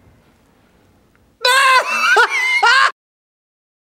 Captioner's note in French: Rire